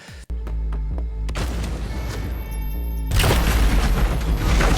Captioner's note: gun shooting